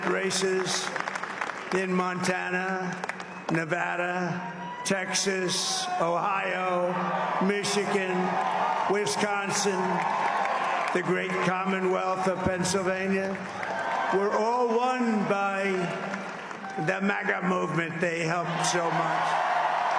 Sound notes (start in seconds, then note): 4.6 applause